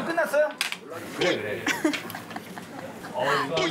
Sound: giggling

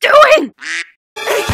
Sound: quack

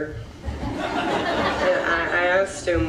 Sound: audience laughs

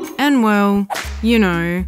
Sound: whip

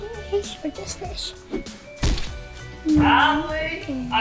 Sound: monkey thudding

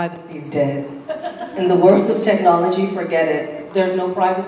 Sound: laugh

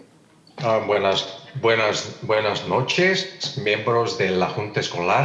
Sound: translator speaking in Spanish

